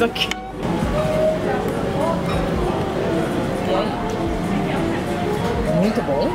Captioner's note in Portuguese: ambiência de restaurante